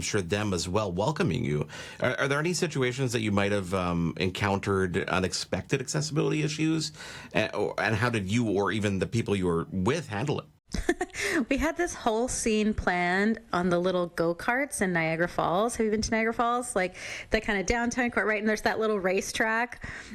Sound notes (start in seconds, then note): 10.9 laughs